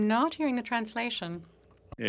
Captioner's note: speaking French